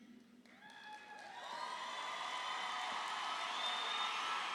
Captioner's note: graduates cheering